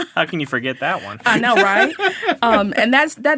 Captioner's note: laughing